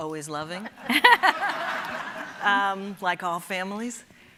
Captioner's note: audience laughing